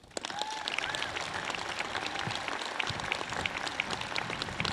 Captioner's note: audience claps